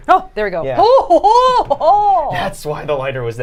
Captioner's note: laughing